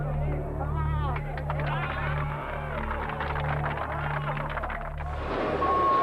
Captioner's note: murmurs; clapping and cheers; crane beep